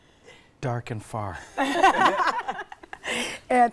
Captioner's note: laughing